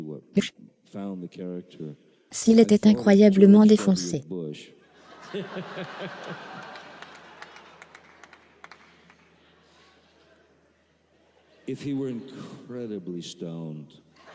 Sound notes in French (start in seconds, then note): 4.9 L'audience rit